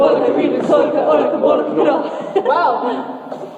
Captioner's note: laughs